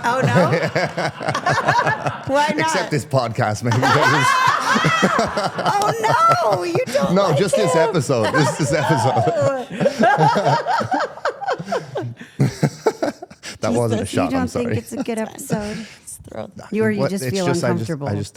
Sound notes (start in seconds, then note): 0.0 participants laugh; 9.9 participants laugh; 12.6 laughs